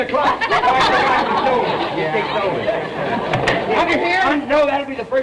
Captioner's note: audience laughter